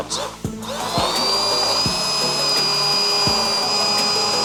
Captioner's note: blender buzzing